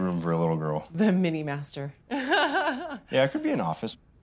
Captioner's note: laughs